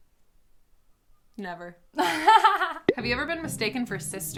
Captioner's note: laughs